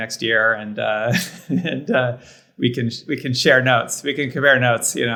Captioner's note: laughs